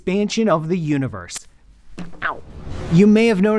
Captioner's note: elastics snaps